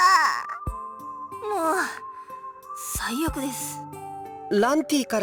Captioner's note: sigh